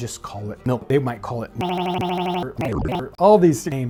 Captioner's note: beeping; distorted beeping